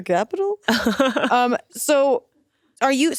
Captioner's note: Atsuko laughs